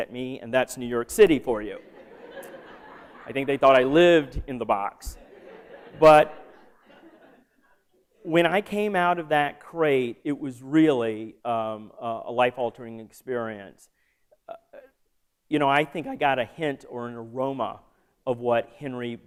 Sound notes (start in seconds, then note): 1.7 laughter